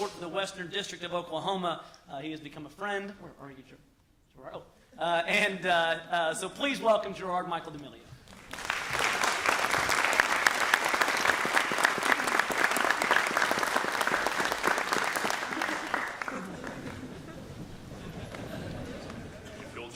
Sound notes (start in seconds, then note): 10.8 applause